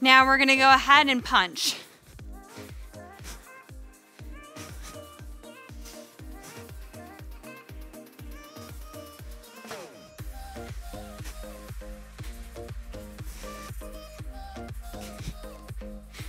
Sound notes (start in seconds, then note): 2.5 soft upbeat music; 3.9 breathes